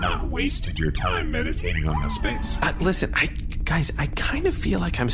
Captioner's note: hushed